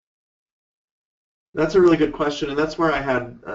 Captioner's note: voiceover